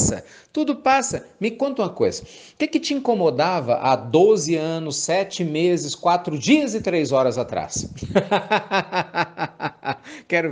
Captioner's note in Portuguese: Risos